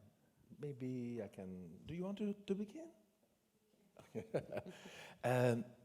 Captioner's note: laughs